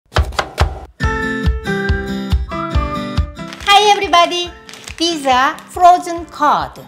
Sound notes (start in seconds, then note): 0.1 chopping; 0.9 cheery music